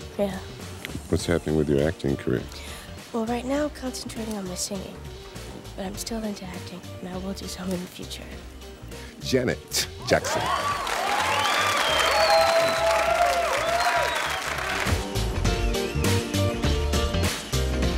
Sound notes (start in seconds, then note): 10.1 audience cheering; 13.1 upbeat R&B music